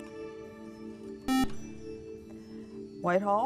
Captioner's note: beep